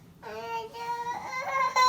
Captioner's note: is crying